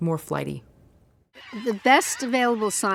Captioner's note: bird sounds